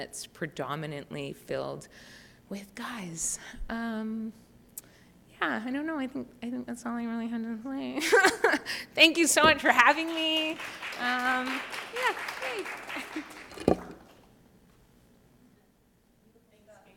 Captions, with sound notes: predominantly filled with guys. Yeah, I don't know. I think that's all I really had to say. Thank you so much for having me. (Applause)